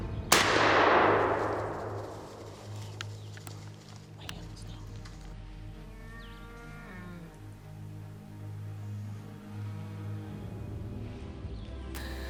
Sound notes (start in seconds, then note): 0.3 rifle firing; 4.7 whispering softly; 5.8 bear moaning